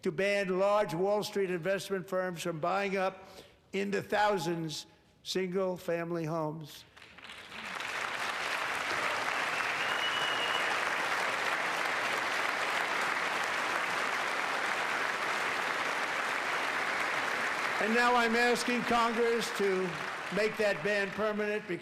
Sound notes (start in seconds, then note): 13.4 applause